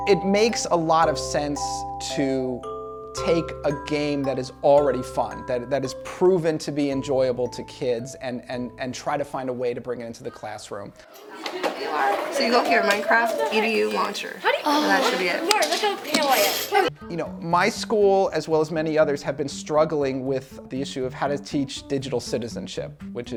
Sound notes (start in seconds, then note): 11.0 kids chattering